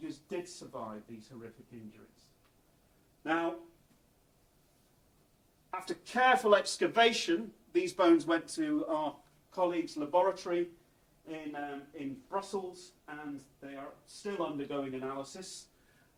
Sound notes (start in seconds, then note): none